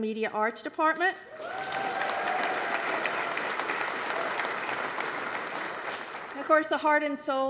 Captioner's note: applause